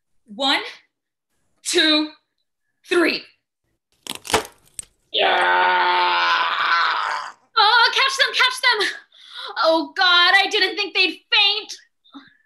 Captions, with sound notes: AVA one. two. three! (ROBIN screams) DELILAH’S VOICE catch them, catch them! oh god I didn’t think they’d faint.